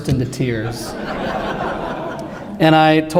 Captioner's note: laughter